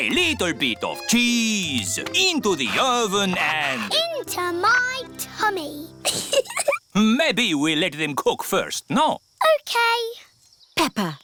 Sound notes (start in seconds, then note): 6.0 giggles